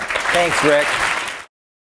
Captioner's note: applause